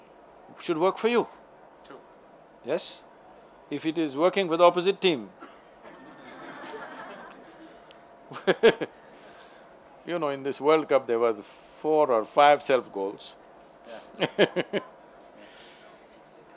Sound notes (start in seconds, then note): 8.4 laughter; 14.1 laughs